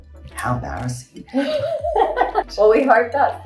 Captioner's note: both laughing